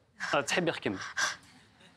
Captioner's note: audio in Kabil